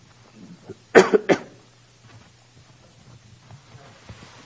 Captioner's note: coughing